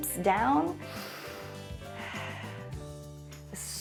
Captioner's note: inhales and exhales